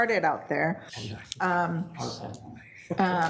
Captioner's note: participants whispering